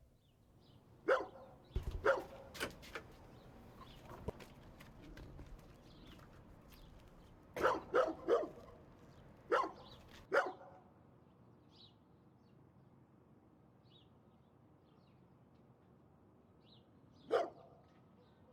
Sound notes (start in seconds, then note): 1.0 birds chirp; 1.0 dog barks; 9.4 dog barks; 10.4 birds chirp